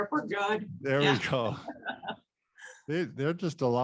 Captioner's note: laughs